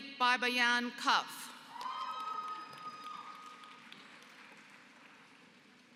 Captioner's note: applause